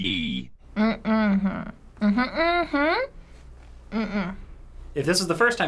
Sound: hums

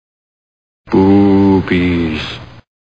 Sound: creepy sound

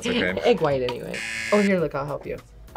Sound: buzzer rings

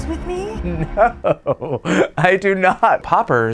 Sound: laughing

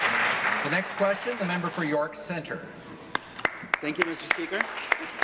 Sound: applause

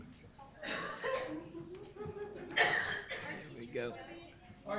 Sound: group chatter

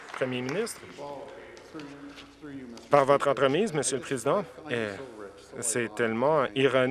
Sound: applause

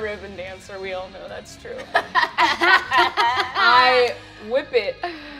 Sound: all laugh

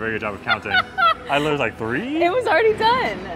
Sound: laughs

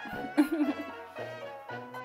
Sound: laughs

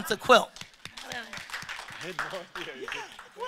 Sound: audience applause

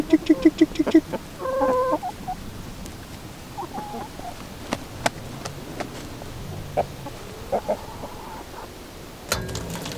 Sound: chicken sounds

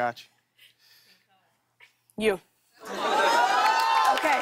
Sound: cheers and applause

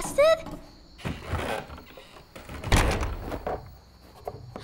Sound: wooden door opening

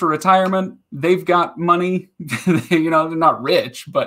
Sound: laughing

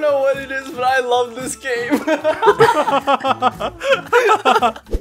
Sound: weird group laughter

